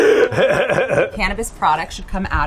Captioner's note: Seth laughs